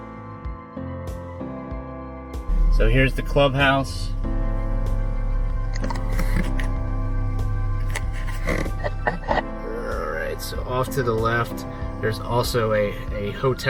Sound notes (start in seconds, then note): 0.0 calm music; 5.1 camera shifting